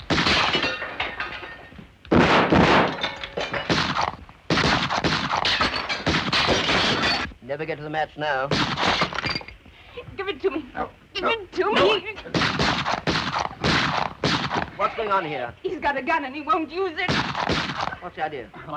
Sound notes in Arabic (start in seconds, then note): 0.1 طلق ناري; 0.1 تحطيم الزجاج; 2.1 اطلاق نار; 9.3 تحطيم الزجاجة; 12.3 اطلاق نار; 17.0 اطلاق نار